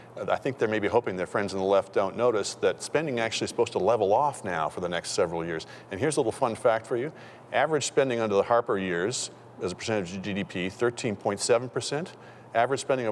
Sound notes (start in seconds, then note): none